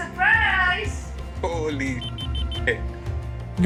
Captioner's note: beep